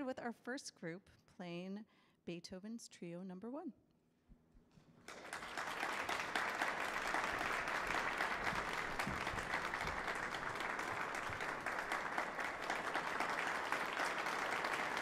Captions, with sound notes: with our first group playing Beethoven's Trio No. 1. [audience applauding]